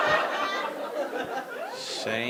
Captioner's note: audience laughing